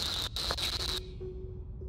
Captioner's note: static